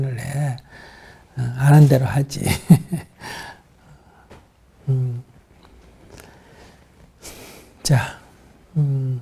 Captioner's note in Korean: 웃음